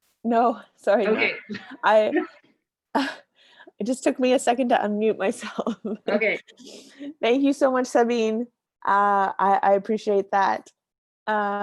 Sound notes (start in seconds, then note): 6.0 laughs